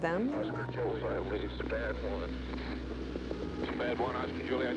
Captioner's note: radio chatter